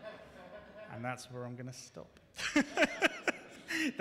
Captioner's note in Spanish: risas